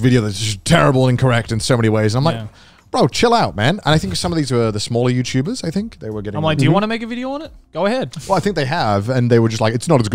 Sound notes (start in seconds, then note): 6.4 group chattering